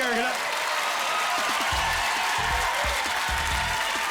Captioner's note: cheering